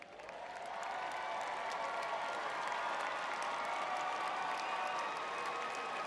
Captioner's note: crowd cheering